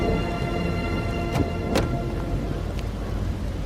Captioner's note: car door closing